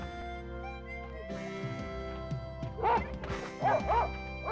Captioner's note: dog barks